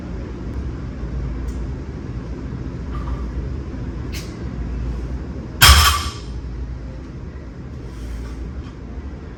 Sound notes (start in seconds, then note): 5.6 weight clanks